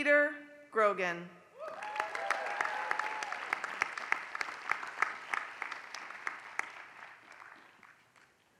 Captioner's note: applause